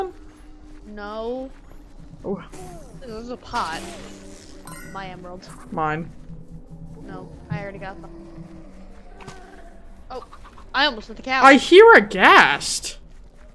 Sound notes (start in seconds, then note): 8.4 distant ghast noises